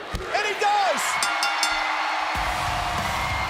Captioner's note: applause